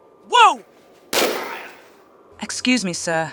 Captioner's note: bam